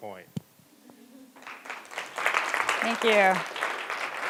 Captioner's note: audience applauds